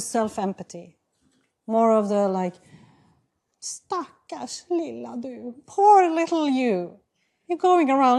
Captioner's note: non-english